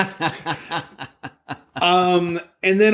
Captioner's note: laughs